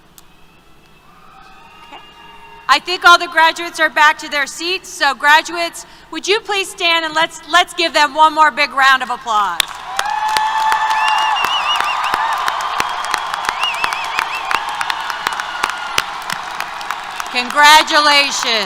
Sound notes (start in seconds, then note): 9.6 applause, Cheers